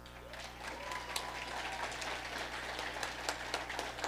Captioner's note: audience applauding